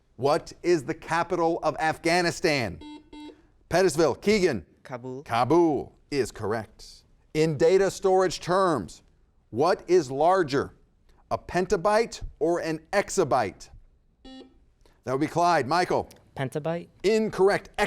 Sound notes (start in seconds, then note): 2.7 buzzer beeps; 14.2 buzzer beeps